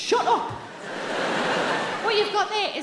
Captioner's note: audience laughing